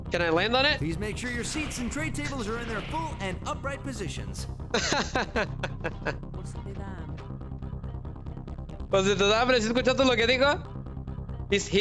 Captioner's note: laughter